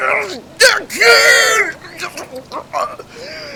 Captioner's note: shouts